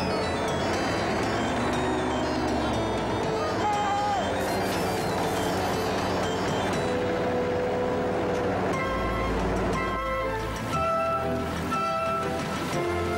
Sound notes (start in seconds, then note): 3.5 man hollering; 6.3 tractor engine revving; 9.4 upbeat instrumental music